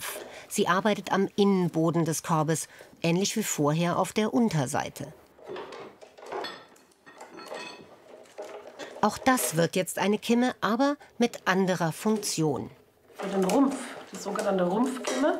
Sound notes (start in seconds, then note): 5.4 metal clanking